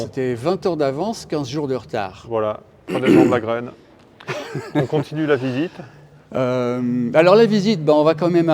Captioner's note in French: raclement de gorge